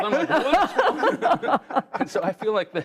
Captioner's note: laughter